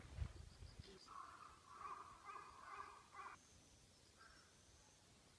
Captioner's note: birds cawing